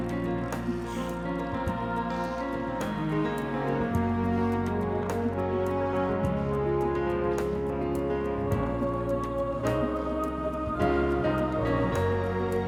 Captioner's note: bright orchestral music; seals grunting